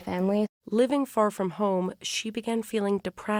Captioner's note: voice-over